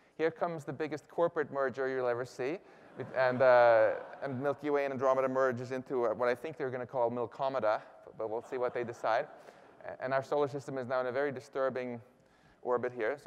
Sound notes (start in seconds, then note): 2.8 laughter; 8.2 laughter